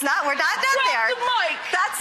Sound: audience applause

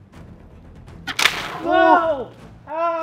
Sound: sploosh

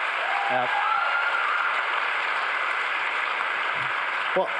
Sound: crowd cheering and applauding

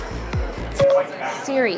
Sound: beeping

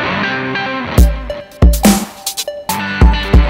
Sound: mouthing

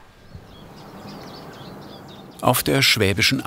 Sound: birds chirping

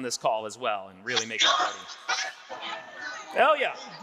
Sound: students clamoring

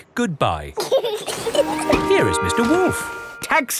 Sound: both laughing

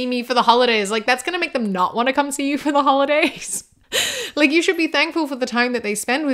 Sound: laughs

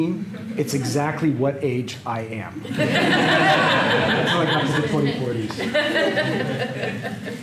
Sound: laughter

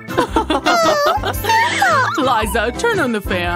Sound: groans

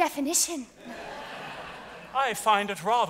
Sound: audience laughs

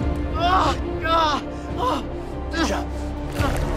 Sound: screaming

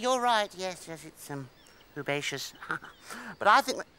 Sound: chuckles

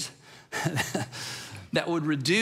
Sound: chuckles

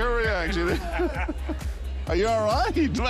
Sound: laughter

